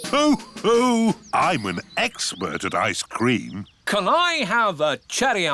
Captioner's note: laughs